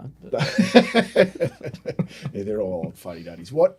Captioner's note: laughing